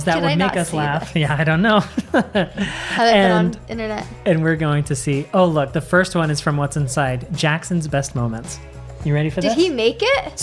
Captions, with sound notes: that would make us laugh-- - How did I not see this? - Yeah, I don't know. (laughs) - I have found internet. - And we're going to see, oh look, the first one is from @whatsinside. Jackson's best moments. You ready for this? - Did he make it?